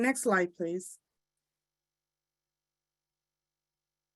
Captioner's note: silence